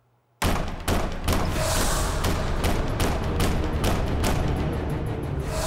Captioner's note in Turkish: Kapıya sert şekilde vuruluyor